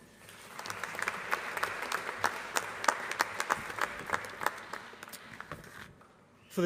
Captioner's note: applause